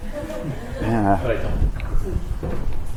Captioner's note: laughs